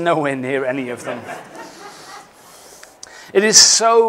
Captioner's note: laughter